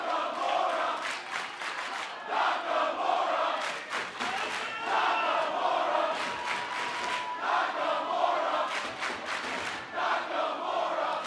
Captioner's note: fans chanting